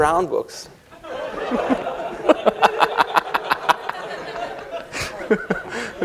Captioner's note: laughter